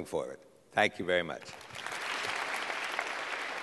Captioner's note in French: Applaudissements